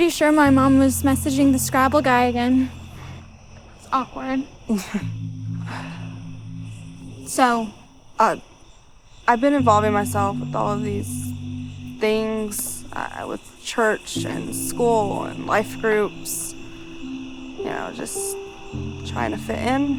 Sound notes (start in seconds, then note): 4.2 laughs